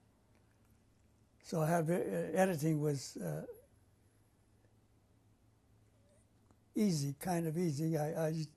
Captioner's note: pauses for 3 seconds